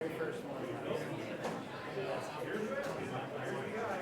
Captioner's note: crowd chattering